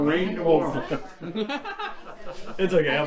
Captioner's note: laughs